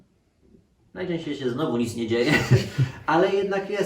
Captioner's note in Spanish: risa